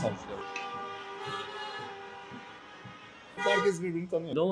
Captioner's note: wedding convoy sounds